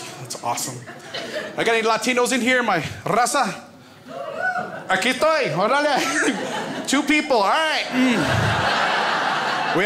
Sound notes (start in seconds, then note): 4.8 foreign language; 7.8 crowd laughs